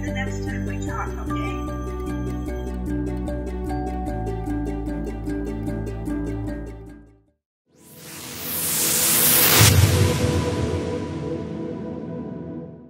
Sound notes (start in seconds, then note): 7.8 music fades out; 7.9 wooshing